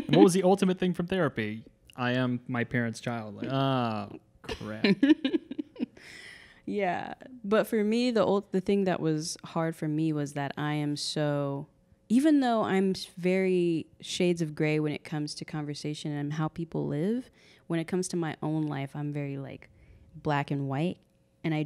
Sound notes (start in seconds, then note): 0.0 laughing; 4.4 laughs